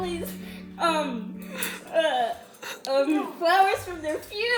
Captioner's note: distraught stuttering